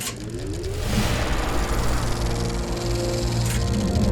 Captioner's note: film reel spooling up